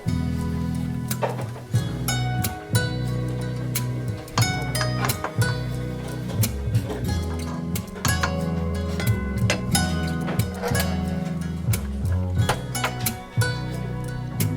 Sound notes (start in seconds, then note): 8.3 utensils thudding